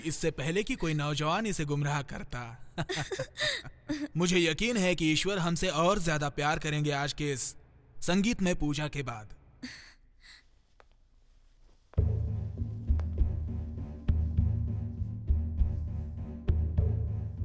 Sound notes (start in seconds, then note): 12.5 footsteps